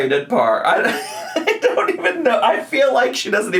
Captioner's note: laughs